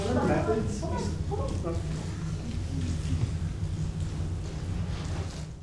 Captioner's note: woman speaking off microphone